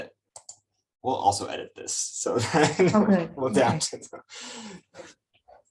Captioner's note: laughs